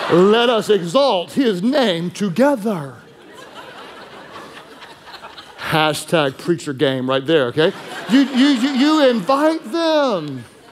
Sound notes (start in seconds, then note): 2.4 congregation laughing; 7.5 congregation laughing